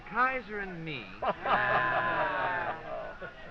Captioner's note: all exclaiming